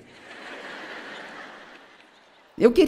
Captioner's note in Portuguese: audiência ri